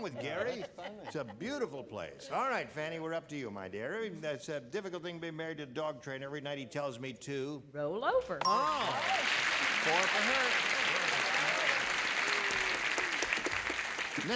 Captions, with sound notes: with Gary. It's a beautiful place. All right, Fannie, we're up to you, my dear. "It's a difficult thing being married to a dog trainer. Every night he tells me to -- -Roll over. -Oh! (bell) (applause) Four for her.